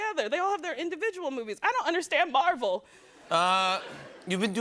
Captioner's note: laughter